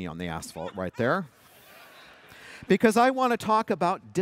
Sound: laughter

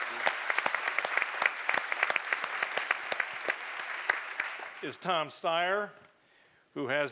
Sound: applause

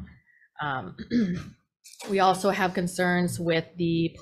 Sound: clears throat

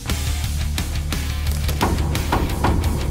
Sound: front door slams shut

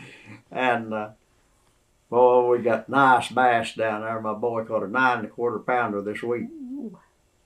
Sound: laughs

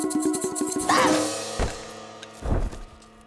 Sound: grunting

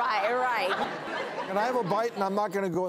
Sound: audience laughs

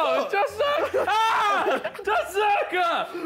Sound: men scream

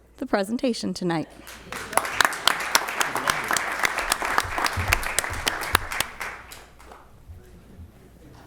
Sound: applause

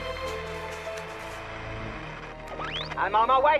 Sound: radio static

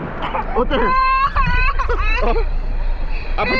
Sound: crying

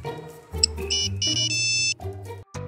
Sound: Nokia Snake Game Beeping

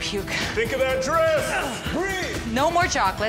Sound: men yelling

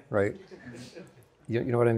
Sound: students laughing

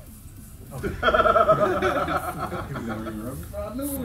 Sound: laugh

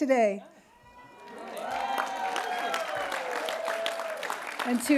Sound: cheering

